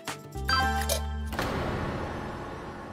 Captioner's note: phone beeps